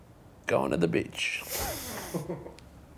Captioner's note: both laughing